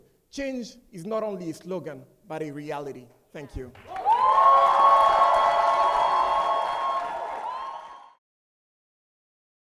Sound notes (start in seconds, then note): 3.7 audience applauding; 3.8 audience cheering